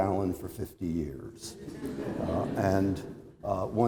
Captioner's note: laughter